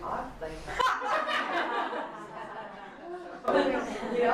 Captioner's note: audience laughter